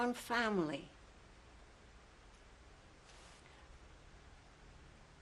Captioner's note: pauses for 7 seconds